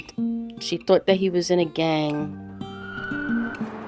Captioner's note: archival sound of motorcycles